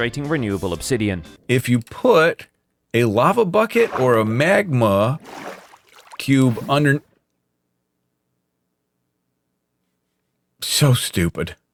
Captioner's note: sizzle